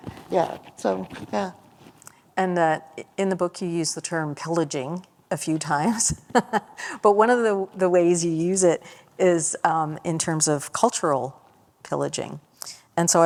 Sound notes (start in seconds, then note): 6.2 laughter